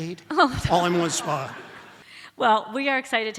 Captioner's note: audience laughs